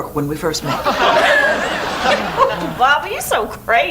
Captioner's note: audience laughs